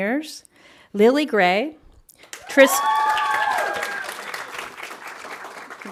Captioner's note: audience applauding